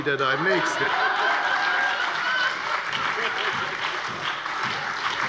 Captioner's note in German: Heiterkeit und Beifall bei der FDP, der SPD und der LINKEN